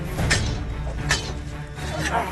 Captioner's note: swords clash